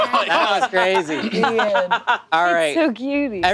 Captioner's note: group laughing